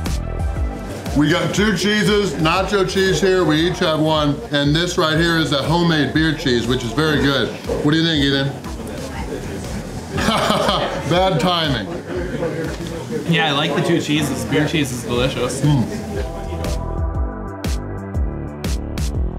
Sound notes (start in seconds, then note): 10.1 laughter